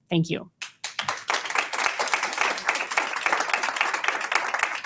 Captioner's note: audience applauds